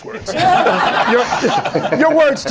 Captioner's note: laughter